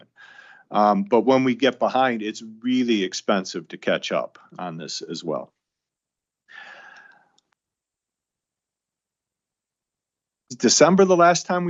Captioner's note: sighs